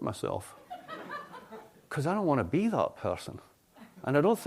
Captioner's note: laughter